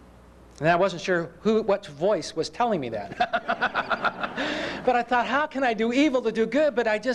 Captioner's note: laughter